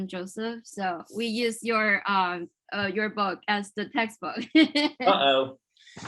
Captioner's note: laughs